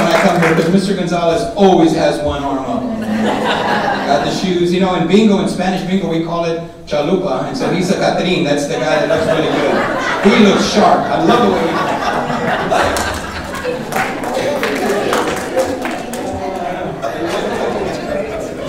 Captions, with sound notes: 'cause Mr Gonzalez always has one arm up on me. (laughing) Got the shoes. You know, and being Spanish people, we call it (speaking Spanish) that's the guy that looks really good. (audience laughing) He looks sharp. I love the way you dress. (audience laughing) (applauding, laughing)